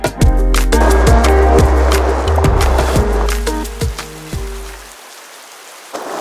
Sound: heavy rain beating on window

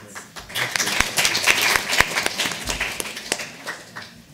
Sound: audience applauding

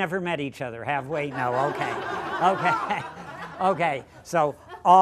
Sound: laughter

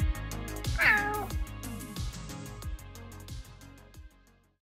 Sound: cat meowing

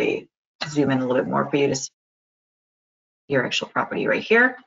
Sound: sound cut out

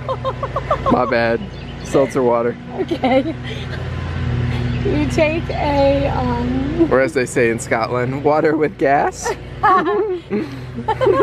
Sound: laughs

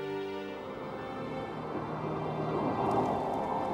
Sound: wind howling

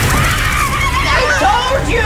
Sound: screaming

